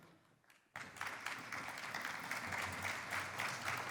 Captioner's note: applause